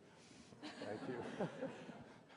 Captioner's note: laughter